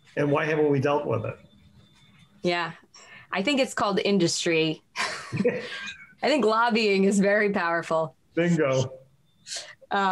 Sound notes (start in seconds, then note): 5.0 chuckles